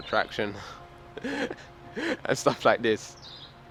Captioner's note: laughs